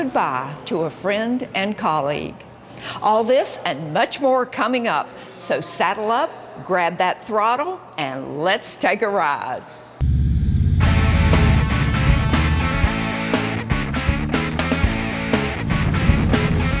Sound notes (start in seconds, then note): 10.1 motorcycle engine roaring; 10.8 upbeat music